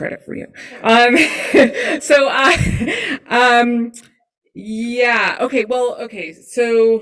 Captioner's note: laughs